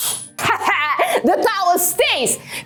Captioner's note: laughs excitedly